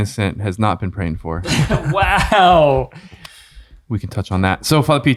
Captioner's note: all chuckling